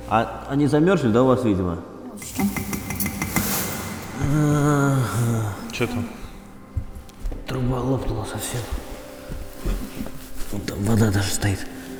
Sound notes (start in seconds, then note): 2.2 tapping